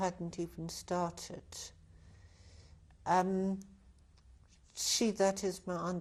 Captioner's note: pauses for 3 seconds